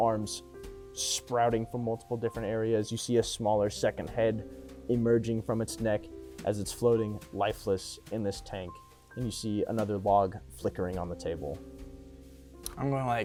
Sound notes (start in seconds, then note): none